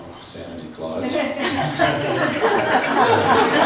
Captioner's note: laughs